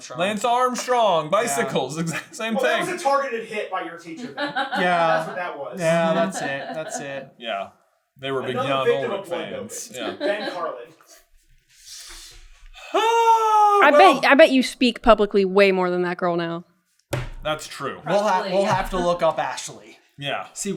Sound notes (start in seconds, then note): 12.7 siiiiiiiiiiiiiiiiiiiiiiiigh